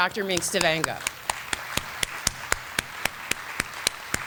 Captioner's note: applause